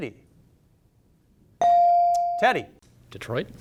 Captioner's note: bell sounding